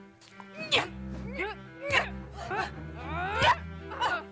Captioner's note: cries of exertion